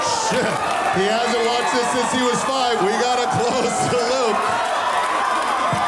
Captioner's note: audience continues screaming